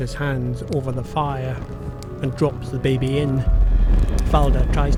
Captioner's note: fire crackling - music building